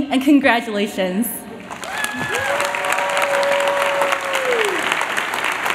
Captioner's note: applause